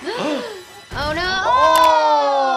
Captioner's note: both gasping